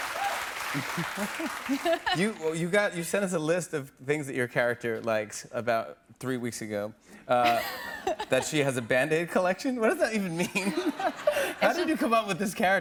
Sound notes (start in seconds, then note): 0.8 both chuckle; 10.5 laughs